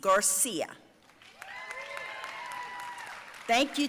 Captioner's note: audience cheering and applauding